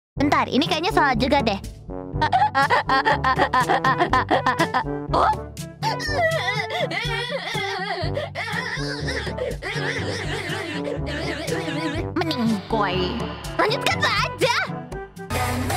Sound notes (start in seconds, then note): 2.3 attempts to do a car engine laugh; 5.8 sobbing intensifies